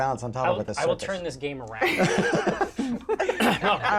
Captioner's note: laughter